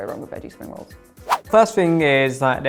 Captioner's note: whoosh